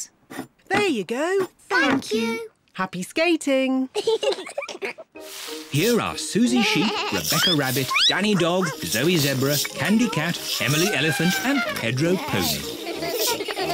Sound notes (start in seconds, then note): 3.9 giggles